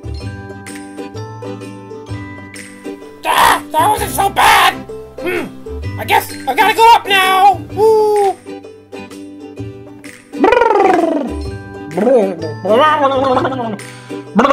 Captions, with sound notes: That wasn't so bad. I guess I gotta go up now. (gurgling)